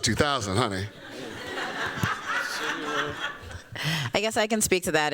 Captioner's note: laughter